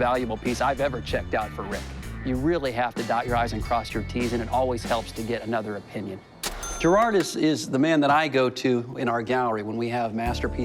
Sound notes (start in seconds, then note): 6.4 ca-ching